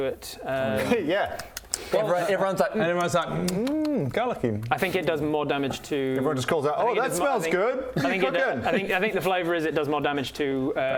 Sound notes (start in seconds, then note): 3.0 num num